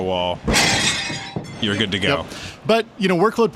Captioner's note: dishes breaking